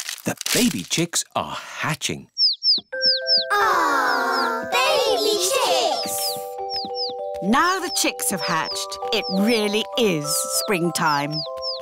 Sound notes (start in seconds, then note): 2.3 chicks cheeping